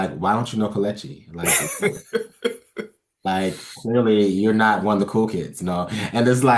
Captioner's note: laugh